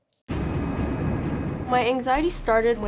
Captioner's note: whooshing